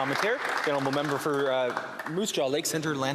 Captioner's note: some Applause